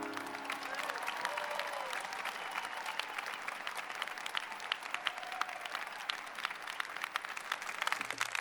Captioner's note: cheering and applause